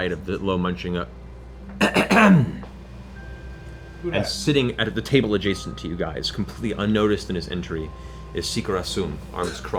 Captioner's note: clears throat